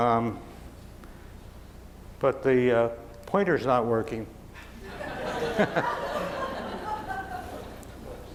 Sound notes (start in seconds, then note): 4.6 chuckles; 4.8 laughing